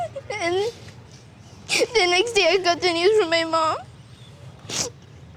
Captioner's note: crying; sniffles